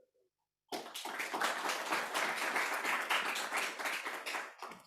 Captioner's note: applause